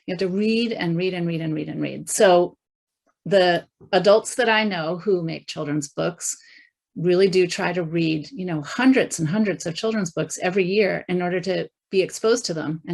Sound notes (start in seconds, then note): none